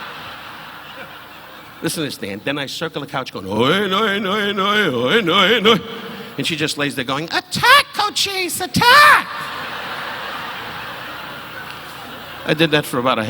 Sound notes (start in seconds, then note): 0.0 audience laughing; 3.5 chants; 10.1 audience laughing